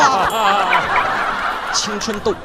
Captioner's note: ding-ding-ding